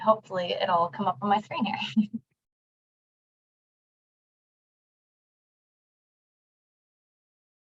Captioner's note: giggling